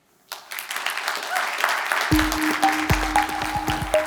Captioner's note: audience applauding; gentle music